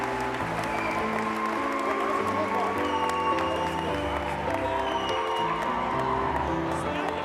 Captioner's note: cheers